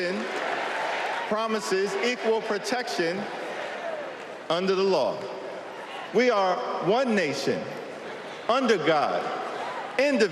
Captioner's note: cheers and applause